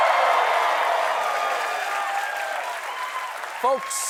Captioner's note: cheers and applause